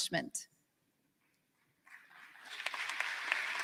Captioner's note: applause